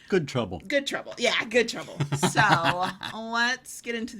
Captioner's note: laughing